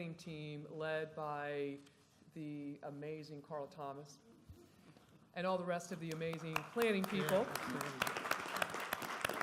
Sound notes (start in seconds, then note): 6.0 applause